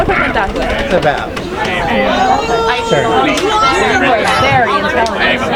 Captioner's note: people chattering